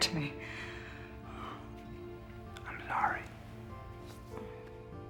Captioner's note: sighs